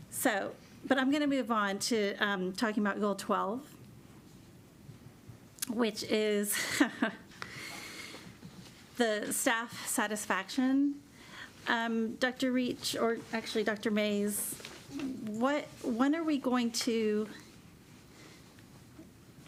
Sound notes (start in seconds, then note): 6.6 chuckles